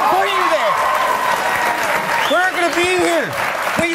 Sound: audience applauds

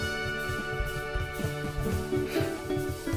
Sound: gasps

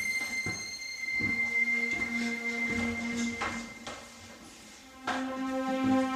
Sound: high pitch sound; footsteps; piano music playing

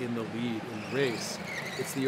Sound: tire squeal

